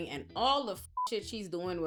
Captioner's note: beep